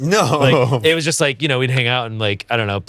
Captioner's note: chuckles